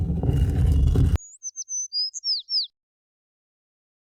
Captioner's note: sliding sounds; bird chirping